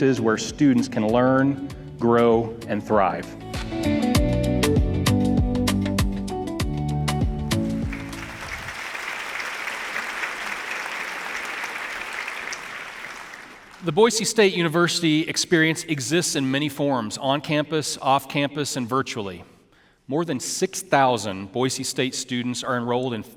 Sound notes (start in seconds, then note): 2.8 upbeat music; 7.7 audience applauding